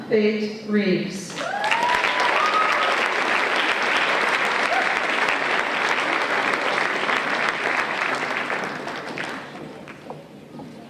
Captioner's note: applause and Cheers